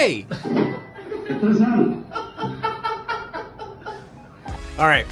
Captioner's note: laughing